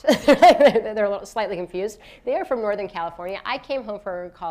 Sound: laughs

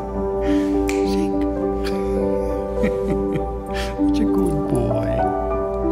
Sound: snap; laughter

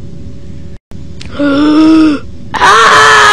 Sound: long GASP!

